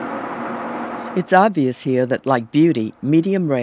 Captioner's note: voiceover